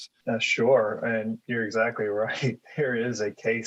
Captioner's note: chuckles